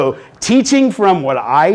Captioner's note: sighs